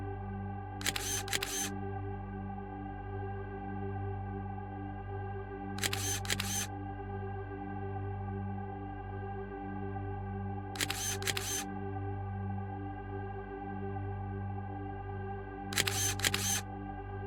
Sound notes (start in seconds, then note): 5.8 shutter clicking